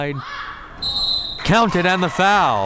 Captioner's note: whistle tweeting